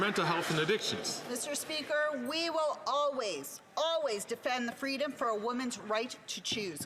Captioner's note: some Applause